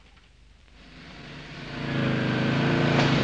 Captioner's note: car approaching